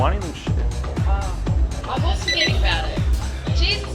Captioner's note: recorder beeping